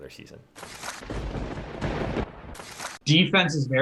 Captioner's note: thunder rumbling